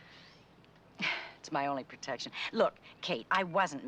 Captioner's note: sighs